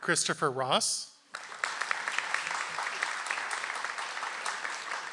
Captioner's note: audience applauds